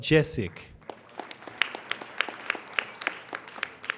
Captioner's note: applauding